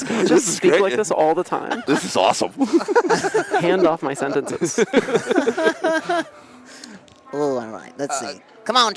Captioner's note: laughter